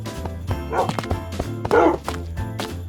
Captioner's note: dog barks